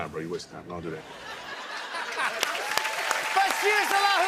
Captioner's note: laughter, cheers, applause